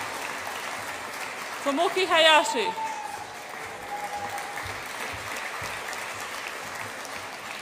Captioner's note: audience applauds and cheers; audience applauds and cheers